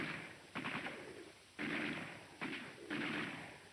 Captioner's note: gunshots